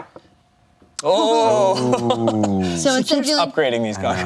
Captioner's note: laughs